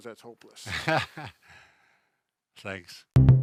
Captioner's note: laughs